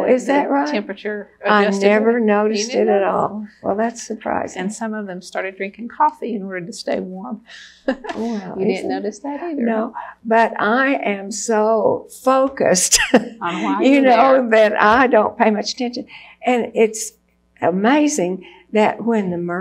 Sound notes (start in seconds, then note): 7.6 laughs; 12.3 laughs